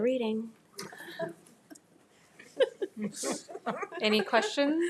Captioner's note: attendees chuckling